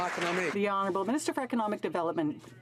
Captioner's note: some Applause